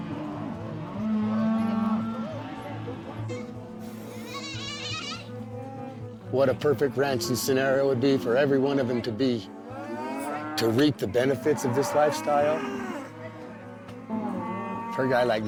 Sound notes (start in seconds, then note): 0.9 cows mooing; 4.3 kids yelling